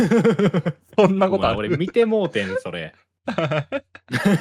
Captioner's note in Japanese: 笑い